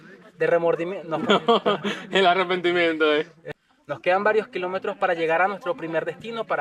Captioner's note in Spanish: risas